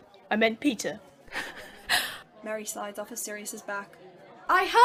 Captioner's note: laughing